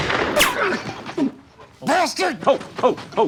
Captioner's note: grunts